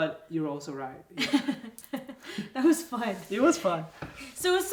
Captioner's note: laughs